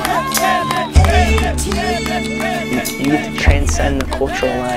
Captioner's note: men cheering